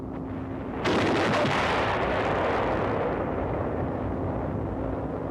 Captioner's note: artillery firing